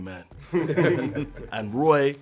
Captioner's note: cast laughing